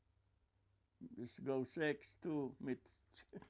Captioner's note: laughing